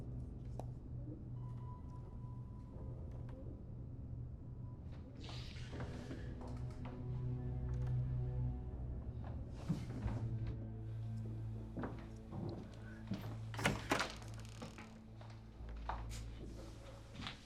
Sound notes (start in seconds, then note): 11.6 footsteps approaching; 13.2 door creaks open